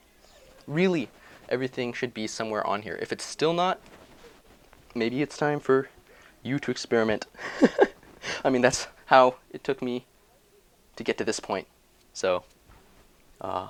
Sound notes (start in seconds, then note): 7.3 laugh